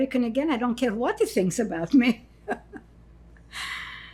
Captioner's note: laughing